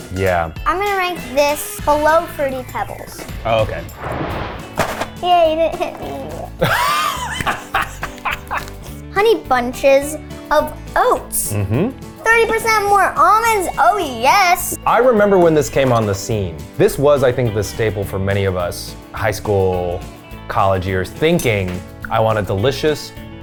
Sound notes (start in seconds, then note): 3.9 animated explosion booming; 4.3 cereal box thudding; 6.5 laughs